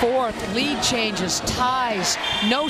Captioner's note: cheering